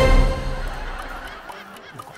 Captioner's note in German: Rockige Musik; Schelmische Musik; Lachen